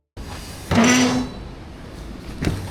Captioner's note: door creaks